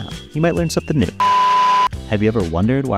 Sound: drill whirring

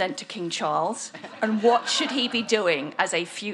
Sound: audience laughs

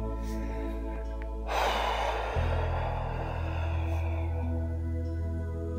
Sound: exhale

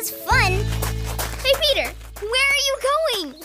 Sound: footsteps thudding

